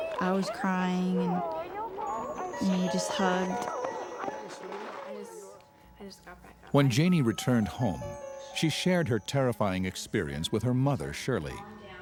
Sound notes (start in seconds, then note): 4.0 family members shouting